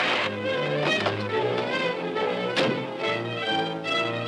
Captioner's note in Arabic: صرير الفرامل